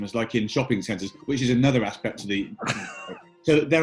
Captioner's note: giggling